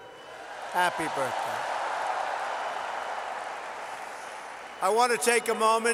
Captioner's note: applause